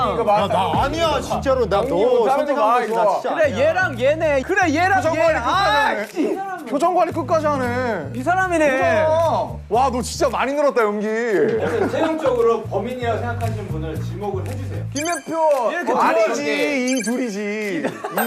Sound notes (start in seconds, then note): 6.5 Tergagap-gagap